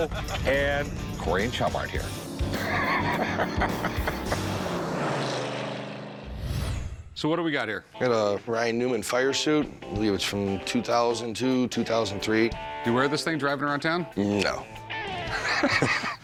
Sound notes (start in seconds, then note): 5.9 laughs; 6.3 engine roars